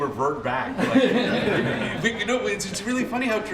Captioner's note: laughter